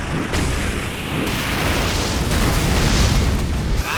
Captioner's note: groaning